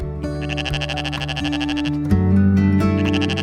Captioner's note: goat bleats